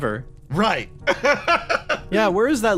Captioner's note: laugh